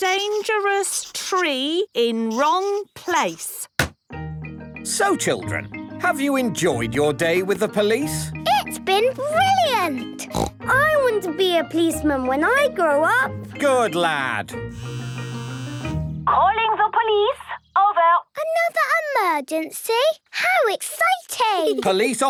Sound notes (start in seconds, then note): 10.2 snort; 14.8 phone ringing